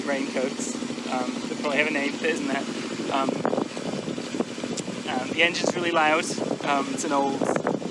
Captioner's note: loud engine noise